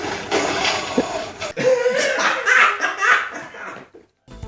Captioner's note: laughs